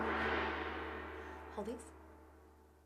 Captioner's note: gong clanging